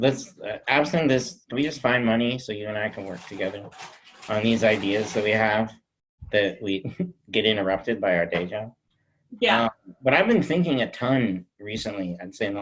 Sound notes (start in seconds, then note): none